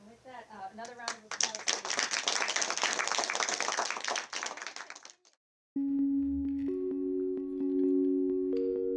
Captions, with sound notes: - Okay and with that, another round of applause. (applause) (bright music)